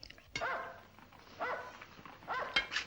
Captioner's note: dog barking